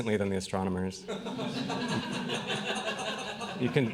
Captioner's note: laughing